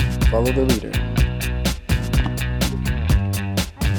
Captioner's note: dad mumbles